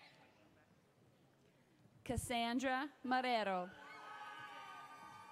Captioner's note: audience applauds